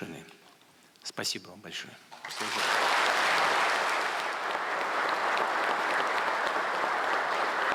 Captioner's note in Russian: Аплодисменты